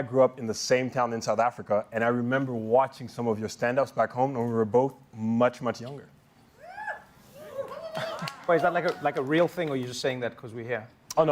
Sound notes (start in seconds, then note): 6.4 shouting